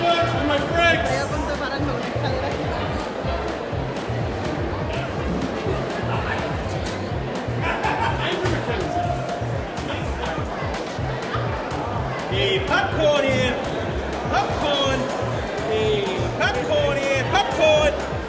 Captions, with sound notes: - Give it up for my franks. (vendors laugh) - Hey, popcorn here. Popcorn. Hey, popcorn here. Popcorn!